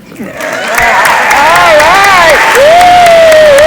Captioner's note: audience applauds